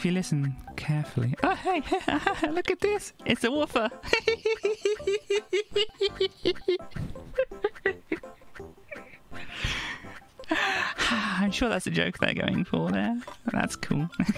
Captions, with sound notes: ...yeah because if you listen carefully... oh! hey! haha! look at this! it's a 'woofer'! *giggles* i'm sure that's the joke they're going for there, but that's cool